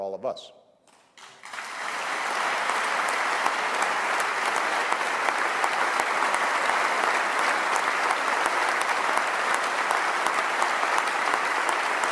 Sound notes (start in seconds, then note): 0.9 applause